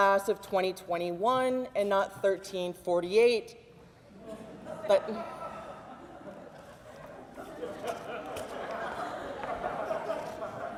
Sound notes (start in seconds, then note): 4.2 audience laughs